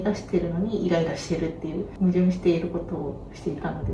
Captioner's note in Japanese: none